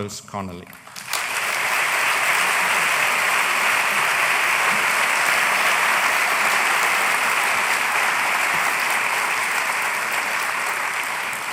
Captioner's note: applause